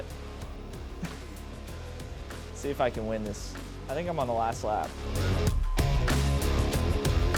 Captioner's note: laughs; rock music